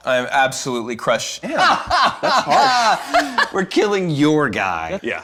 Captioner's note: laughs maniacally